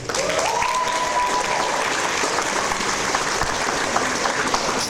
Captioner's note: audience applause